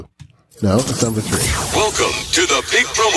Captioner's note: zooming tones; automated Voice